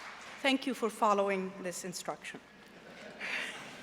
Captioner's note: applause